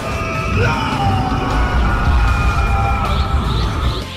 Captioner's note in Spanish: Goku gritando y transformándose en SSJ1